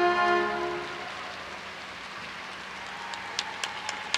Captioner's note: audience applauds